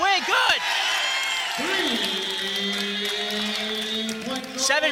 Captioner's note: cheering